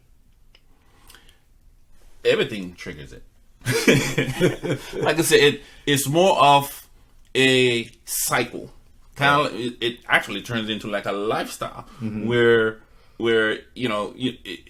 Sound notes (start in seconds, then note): 3.6 both laughing